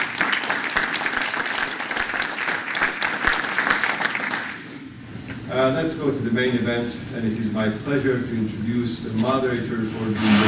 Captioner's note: applause